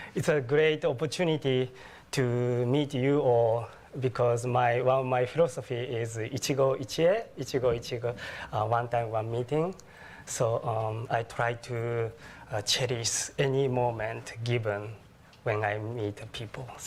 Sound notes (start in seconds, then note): 6.7 speaking japanese